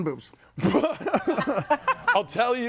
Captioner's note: group laughs